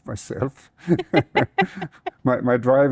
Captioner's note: both laughing